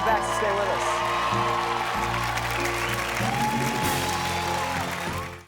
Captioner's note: audience cheers and applauds